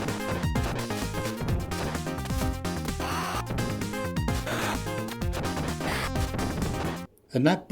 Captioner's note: fighting sound effects